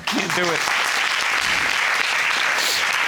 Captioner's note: audience applauding